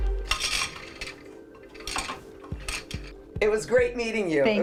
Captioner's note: loom clanking